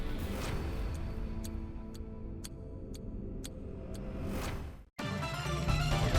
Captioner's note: gentle music; clock ticking; bright upbeat music